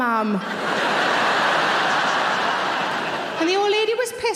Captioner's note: audience laughing